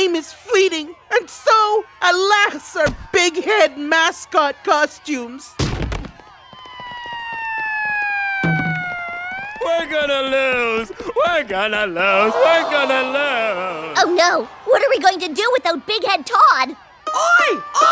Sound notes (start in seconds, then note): 6.0 sirens wail